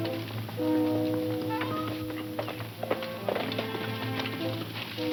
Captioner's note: horse clomping; somber music